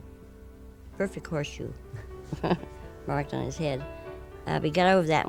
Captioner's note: chuckles